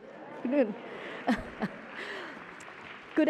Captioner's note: applause